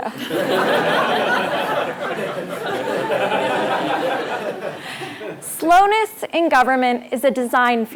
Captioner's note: laugh